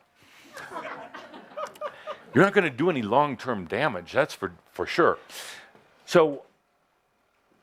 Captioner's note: laughter